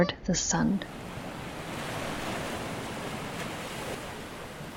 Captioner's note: ocean waves, underlying